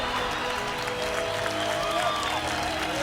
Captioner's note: cheering, applause